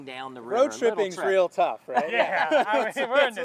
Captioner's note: all three laughing